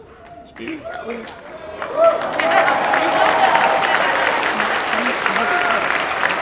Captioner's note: audience applauds and cheers